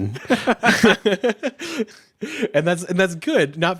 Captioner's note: everyone laughs